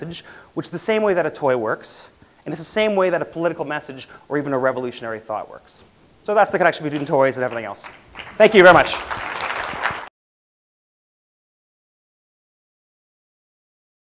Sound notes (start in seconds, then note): 10.3 applause